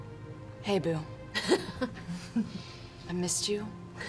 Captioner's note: laughs